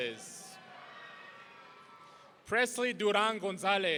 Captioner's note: audience cheering